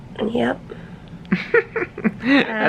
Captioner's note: chuckles